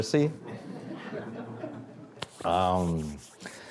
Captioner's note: audience laughing